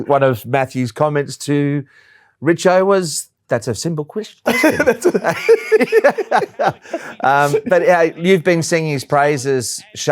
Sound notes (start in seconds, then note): 4.4 laughs